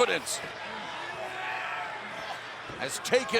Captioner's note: fans chattering